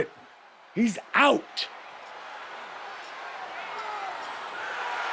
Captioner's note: crowd cheering